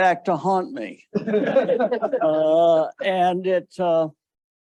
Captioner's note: audience laughing